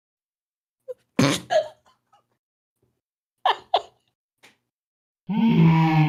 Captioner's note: laughing